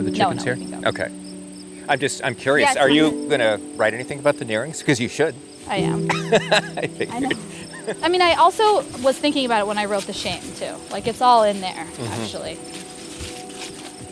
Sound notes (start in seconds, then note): 5.7 laughs; 13.9 leaves crunch